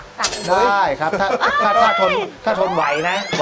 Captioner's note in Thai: ร้อง